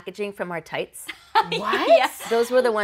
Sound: laughing

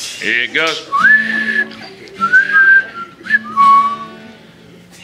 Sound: whistling

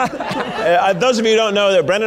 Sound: audience laughing

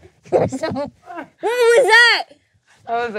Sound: groaning

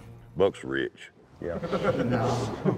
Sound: laughter

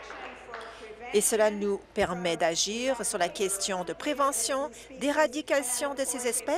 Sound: applause

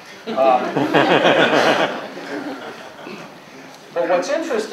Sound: laughter

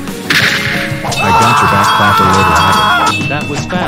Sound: screaming

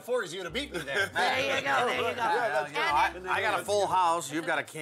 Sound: laugh

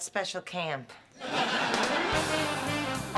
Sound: laughter

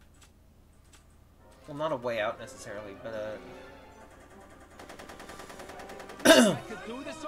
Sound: cough

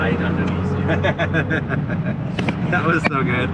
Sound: laughing

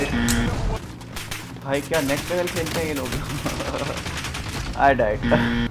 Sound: speaking foreign language

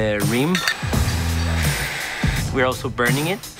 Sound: machine grinding

